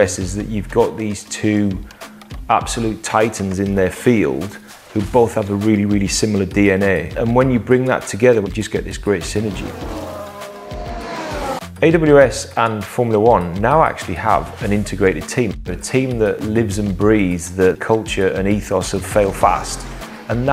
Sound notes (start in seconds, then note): 9.2 engines zooming